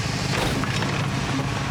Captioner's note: engine rumbling